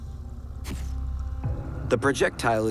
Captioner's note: click of camera